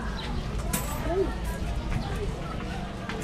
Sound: coins dropping

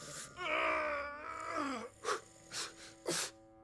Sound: struggling

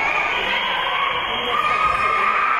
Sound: spectators cheering; whistle being blown; spectators and teams cheering

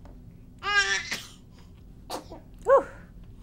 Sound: baby sneezes

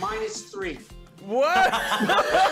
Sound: laughter

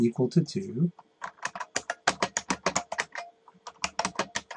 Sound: keyboard clicks

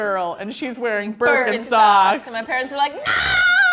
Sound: group Speaking

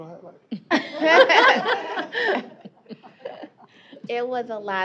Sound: laughter

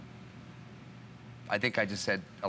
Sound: foreign language

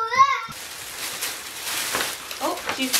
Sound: paper rustling

